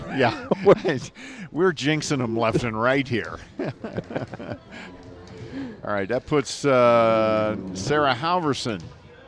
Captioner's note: laughter